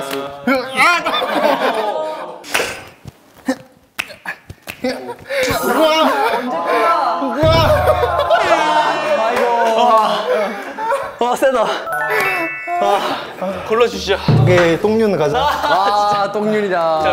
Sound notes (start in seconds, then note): 0.8 haha